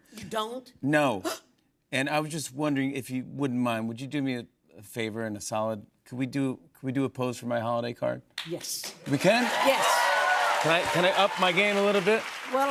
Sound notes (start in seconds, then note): 9.0 cheers and applause